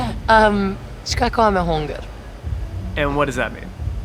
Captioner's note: speaks Albania